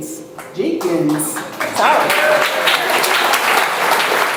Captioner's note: audience applauds